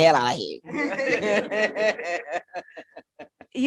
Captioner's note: laughter